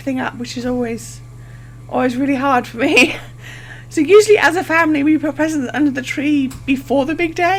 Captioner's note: laughs